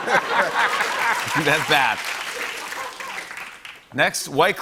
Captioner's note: applause